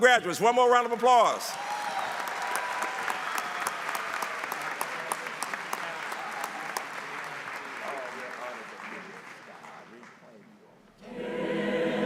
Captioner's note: applause